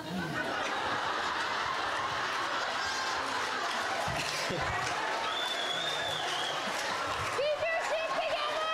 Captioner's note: everyone laughs